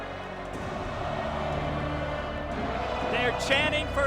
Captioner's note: crowd chanting "Goldberg"